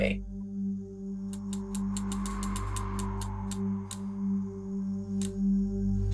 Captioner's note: timer clicking, music playing